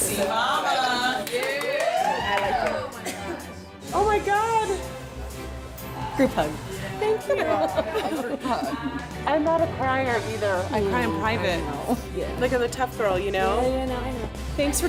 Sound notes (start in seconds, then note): 3.2 cheering